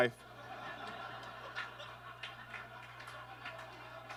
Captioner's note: audience laughs